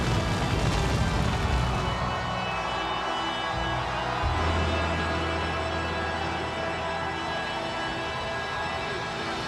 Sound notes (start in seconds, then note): 0.6 ominous music continues; 3.0 audience continues cheering